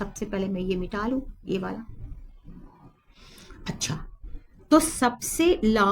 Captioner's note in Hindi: नाक से की जाने वाली आवाज़